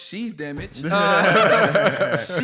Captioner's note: laughter